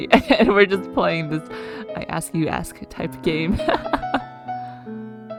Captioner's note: laughs